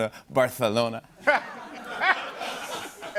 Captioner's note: laughter